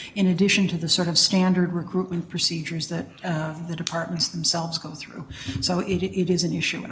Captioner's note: none